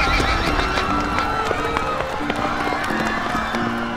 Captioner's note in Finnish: ihmiset juoksevat huutaen